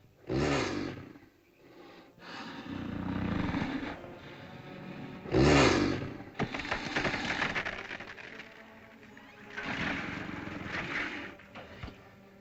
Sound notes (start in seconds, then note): 0.2 dinosaur snorts; 9.2 dinosaur grumbles